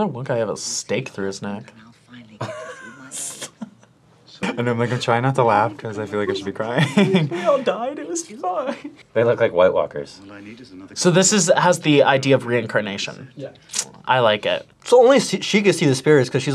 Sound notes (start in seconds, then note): 2.4 laughs; 8.9 laughs